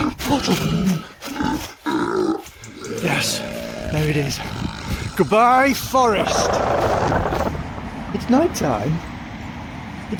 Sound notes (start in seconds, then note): 3.2 creature growling; 6.8 portal sound